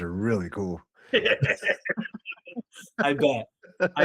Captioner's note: laughing